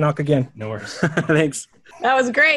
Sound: laughs

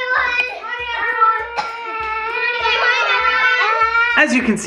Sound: kids shouting

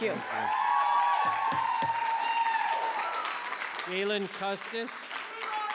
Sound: audience cheering

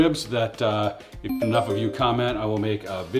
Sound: message tinkles

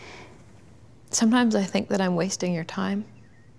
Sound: deep breath

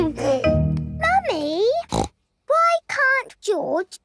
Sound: giggles; snorts

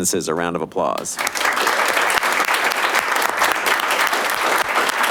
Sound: audience applauding

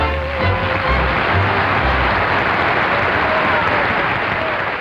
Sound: audience applauds

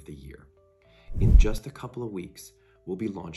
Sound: swoosh

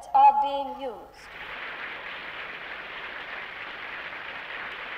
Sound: audience applauds

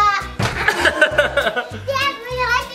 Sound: family laughing

